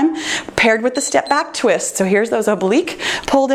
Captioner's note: timer beeps